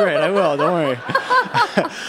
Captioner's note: laughter